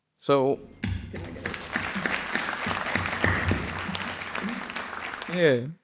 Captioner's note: audience applauding